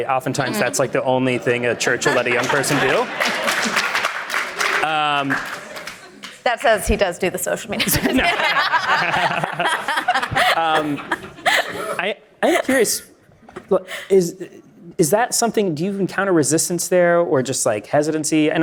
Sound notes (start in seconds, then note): 3.6 audience applauding; 7.8 audience laughing